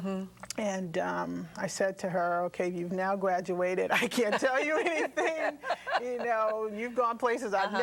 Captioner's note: laughter